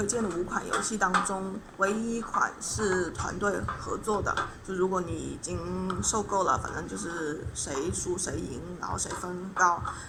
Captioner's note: explaining in Chinese